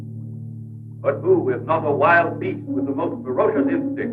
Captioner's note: announcer on Radio